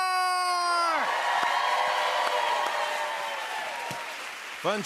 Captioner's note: cheers and applause